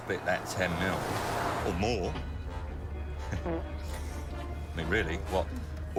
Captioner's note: man farts